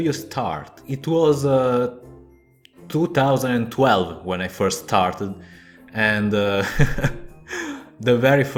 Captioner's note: chuckles